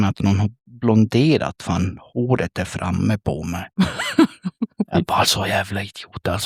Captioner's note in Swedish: skratt